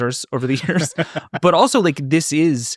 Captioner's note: laughing